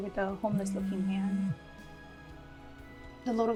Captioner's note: phone ringing